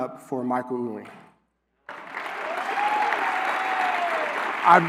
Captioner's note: applause